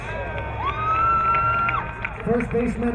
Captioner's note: crowd cheering